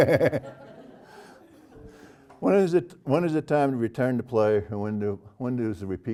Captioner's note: laugh